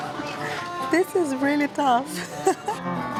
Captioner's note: laughs